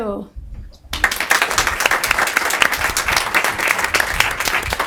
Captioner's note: group applauding